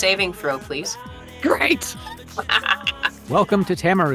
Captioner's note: KAYA cackles